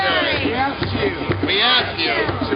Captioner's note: voiceover